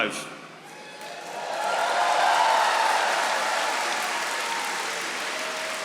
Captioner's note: audience applauding